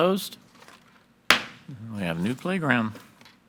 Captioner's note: gavel bangs